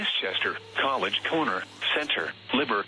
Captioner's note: whirring